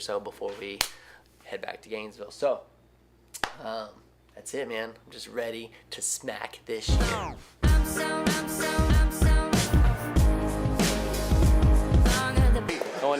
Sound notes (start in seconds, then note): 0.8 slaps hand; 2.7 slaps thigh; 6.8 upbeat pop music; 6.9 record winds down